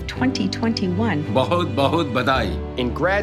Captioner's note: non-english speech